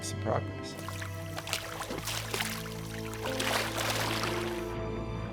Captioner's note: water sloshing